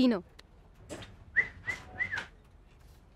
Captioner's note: Whistling